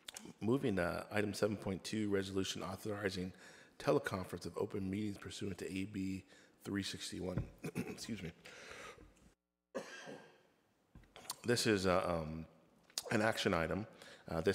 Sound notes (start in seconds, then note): 9.7 coughs; 9.8 clears throat